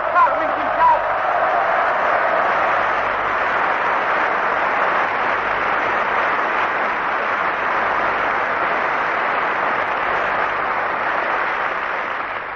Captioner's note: applause